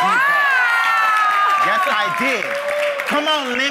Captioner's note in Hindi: वाहवाही